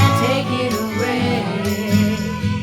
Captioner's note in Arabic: none